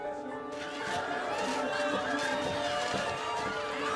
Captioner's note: students cheering